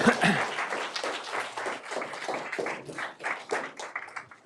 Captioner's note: audience applauds